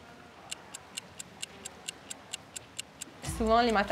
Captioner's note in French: son de chronomètre